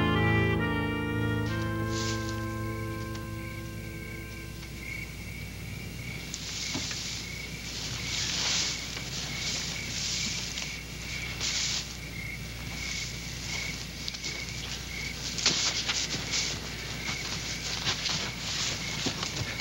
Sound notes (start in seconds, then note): 3.0 crickets chirping